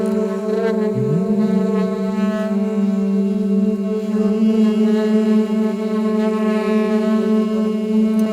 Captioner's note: layers of Saxophone; with tonal Humming